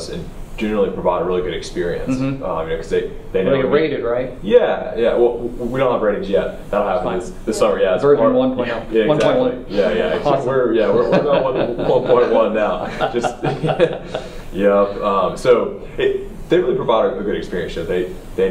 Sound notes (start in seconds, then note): 10.8 laugh